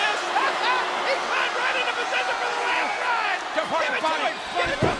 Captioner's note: crowd cheering